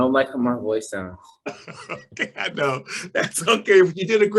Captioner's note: laughs